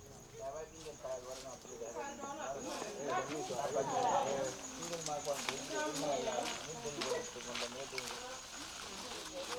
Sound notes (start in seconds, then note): 4.5 footsteps on grass; 8.8 chattering in local language